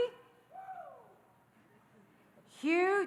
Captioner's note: audience cheering